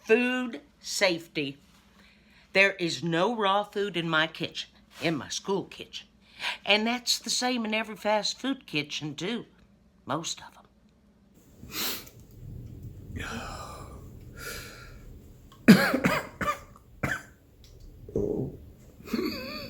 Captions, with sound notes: Food safety. There is no raw food in my kitchen, in my school kitchen. And that's the same in every fast food kitchen too, most of 'em. (coughs)